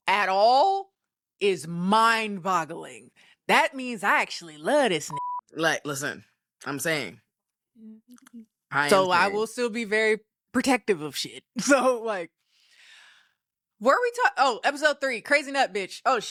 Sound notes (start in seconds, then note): 5.0 beep